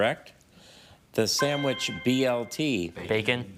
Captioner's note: chime resonating